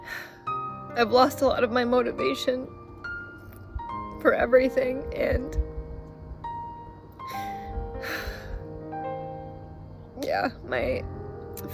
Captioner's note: sigh